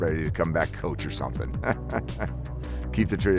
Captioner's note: laughs